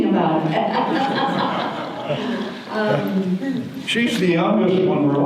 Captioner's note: audience laughter